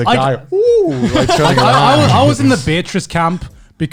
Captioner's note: laughs